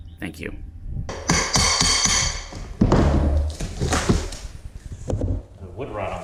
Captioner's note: banging noise